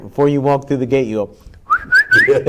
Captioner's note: host whistles; group laughing